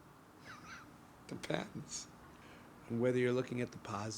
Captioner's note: laughing